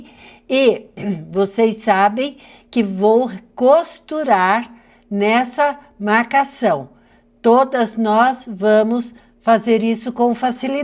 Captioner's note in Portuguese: limpando a garganta